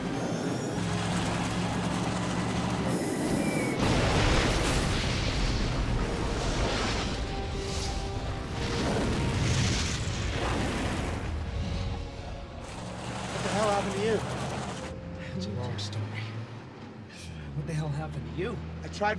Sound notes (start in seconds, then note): 0.3 missile whooshing; 3.8 explosions rumbling; 8.6 fire whooshing